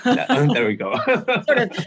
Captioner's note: laughs